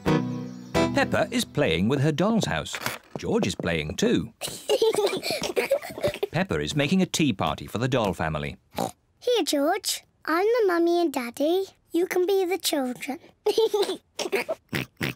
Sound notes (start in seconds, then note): 4.4 both giggling; 8.7 oinks; 13.5 giggles and oinks